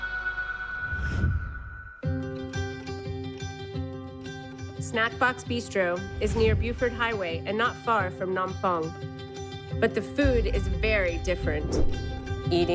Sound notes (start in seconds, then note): 0.9 air whooshes; 2.0 subdued music